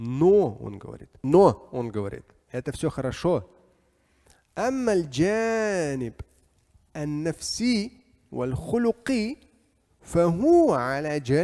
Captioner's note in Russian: говорит на арабском